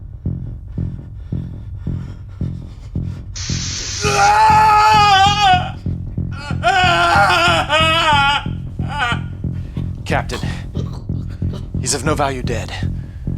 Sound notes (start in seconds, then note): 3.4 screams in pain; 3.9 heartbeat increases